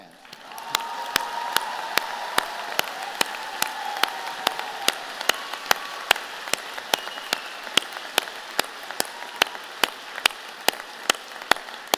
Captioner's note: applause